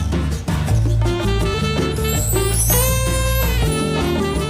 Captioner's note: none